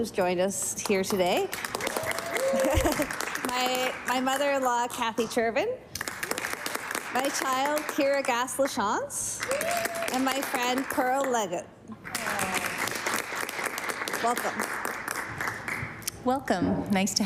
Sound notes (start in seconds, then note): 5.6 applause